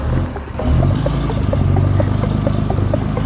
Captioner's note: truck revs